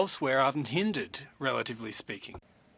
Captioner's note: speaking French